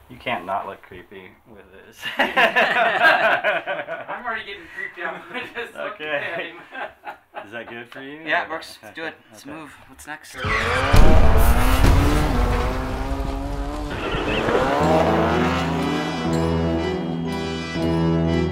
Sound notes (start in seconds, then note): 2.0 group laughing; 10.4 motors revving